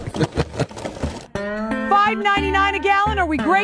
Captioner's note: laughing